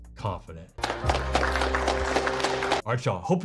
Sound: applauding

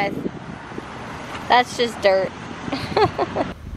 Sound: laughs

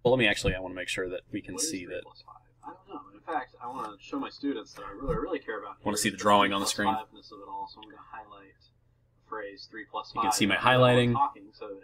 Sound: recording playback in background

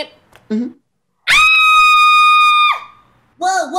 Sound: screams

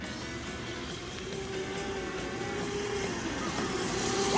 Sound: moped whirring

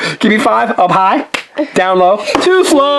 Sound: hands smack

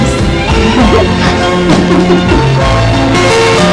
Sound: both chuckle

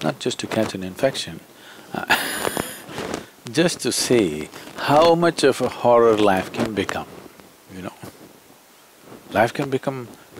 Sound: laughs

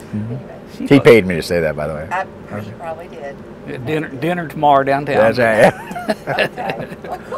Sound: laughter

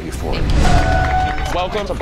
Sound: cheers

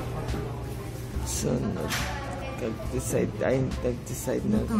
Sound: murmuring

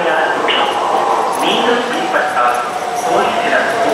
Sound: sounds of train arriving into the station

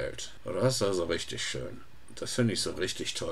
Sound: spoken maliciously

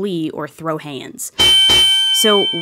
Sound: boxing bell

